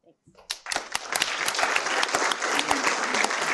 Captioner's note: applause